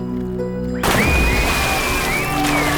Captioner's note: kids yelling